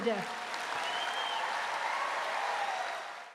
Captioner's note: applause, cheers